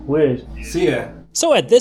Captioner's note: speaking Albanian